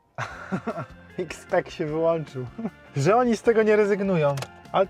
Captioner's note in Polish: śmiech